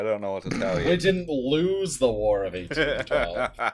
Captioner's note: laughter